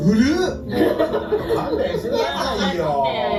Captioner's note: laughs